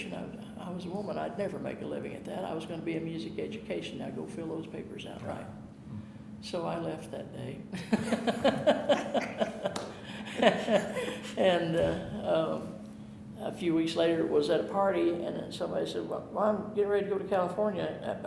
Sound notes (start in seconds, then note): 7.8 chuckling